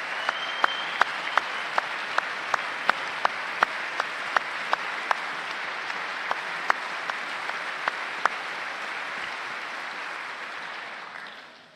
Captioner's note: applause